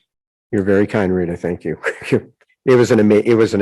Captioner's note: chuckles